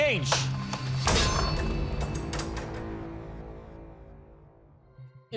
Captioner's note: crashing